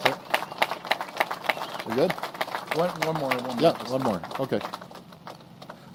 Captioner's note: applause